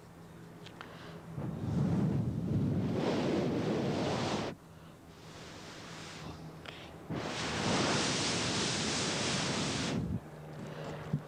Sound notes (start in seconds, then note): 1.0 Shri Mataji blows into the micro